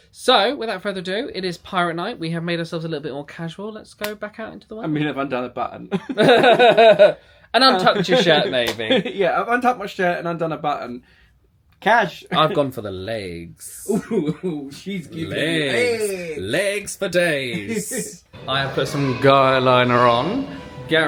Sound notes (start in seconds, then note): 6.0 both laugh